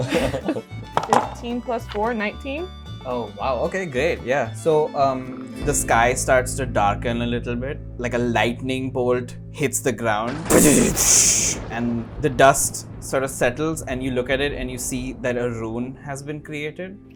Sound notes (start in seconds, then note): 0.0 laughter; 10.2 boom